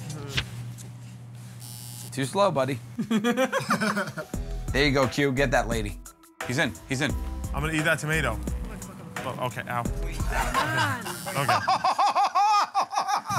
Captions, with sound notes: [ Buzzer ] Too slow, buddy. [ Laughter ] There you go, Q -- get that lady. -He's in, he's in. -I'm gonna eat that tomato. -Come on! -Okay. [ Laughter ]